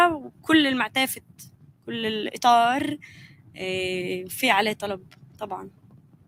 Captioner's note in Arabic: لغة أجنبية